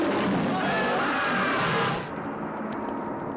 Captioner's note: yelling